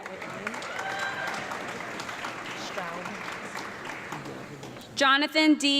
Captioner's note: audience clapping and cheering